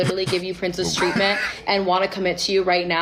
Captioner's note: laughing